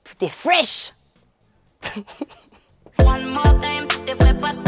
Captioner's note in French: Rire